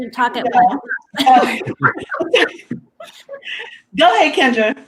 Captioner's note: laughs